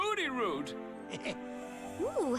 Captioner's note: chuckles